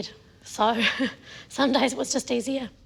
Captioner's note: laughs